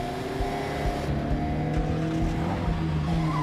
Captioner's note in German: heulender motor